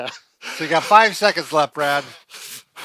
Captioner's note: laughing